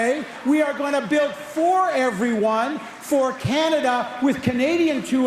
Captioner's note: cheering/Applause